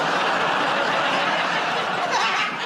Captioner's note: laughter